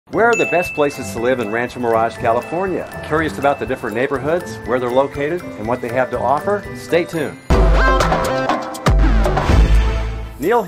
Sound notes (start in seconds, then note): 0.0 bell dings; 7.8 energetic music